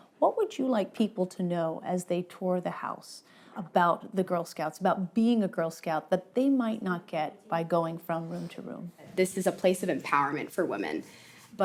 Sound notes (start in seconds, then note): none